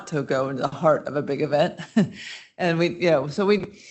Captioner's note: chuckles